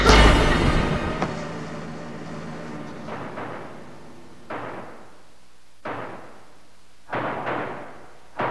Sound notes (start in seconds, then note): 0.0 boom; 1.1 body landing